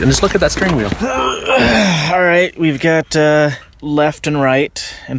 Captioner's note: grunts